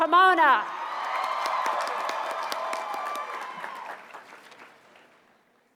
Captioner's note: cheers and applause